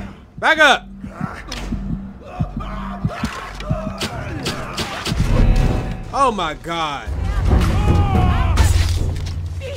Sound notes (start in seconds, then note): 2.7 enemies screaming